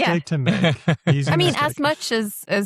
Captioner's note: laughs